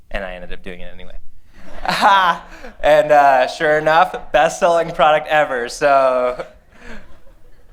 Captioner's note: laughter